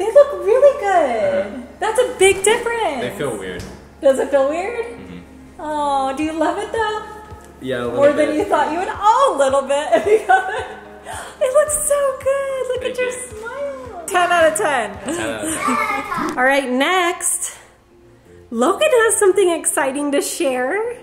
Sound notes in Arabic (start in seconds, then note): 10.6 يضحك